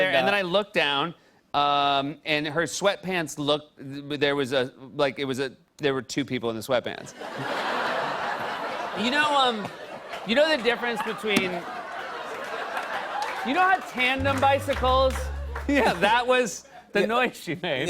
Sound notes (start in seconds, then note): 7.1 laughter; 14.4 wah! Wah!